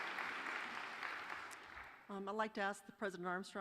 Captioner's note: applause